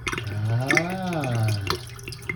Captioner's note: milk glugging